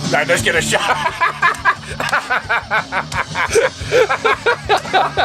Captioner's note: laughter